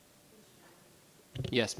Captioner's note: speaking faintly